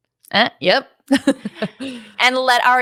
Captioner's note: laughs